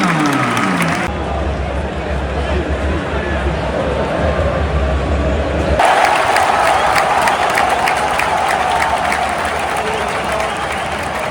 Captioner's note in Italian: Applauso